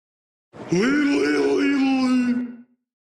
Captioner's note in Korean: 신의 언어로 말하는 중